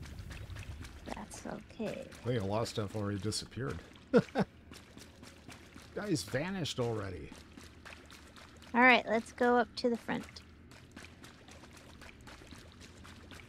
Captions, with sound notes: That's okay. I think I lost that before he disappeared. [laughs] That guy's vanished already. Alright, let's go up to the front.